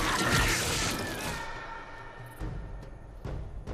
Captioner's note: blood squelching; claws slicing; Ryder screaming; dramatic drum music